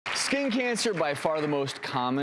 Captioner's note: audience applauds